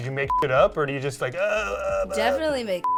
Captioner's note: makes funny noises